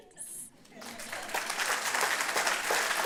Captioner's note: applause